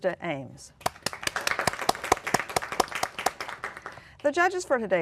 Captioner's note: applause